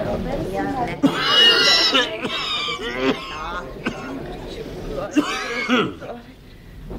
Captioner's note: coughs